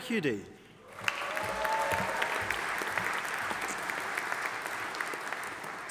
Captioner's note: audience applauding